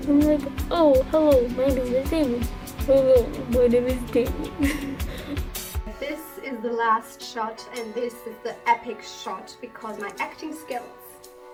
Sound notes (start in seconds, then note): 2.8 deeper voice; 3.4 laugh